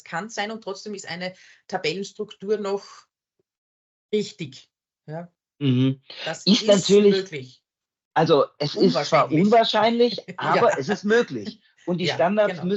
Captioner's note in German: lachen